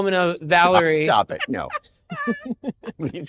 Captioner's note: laughs